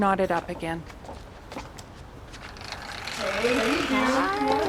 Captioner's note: sound of door opening